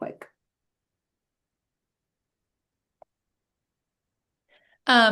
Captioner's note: silence